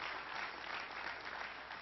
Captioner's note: applause